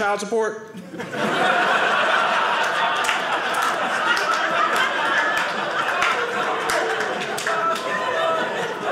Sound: audience laughing

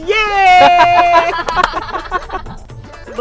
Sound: laughing

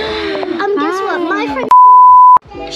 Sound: beep

